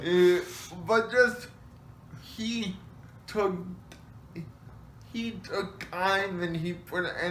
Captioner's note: laughs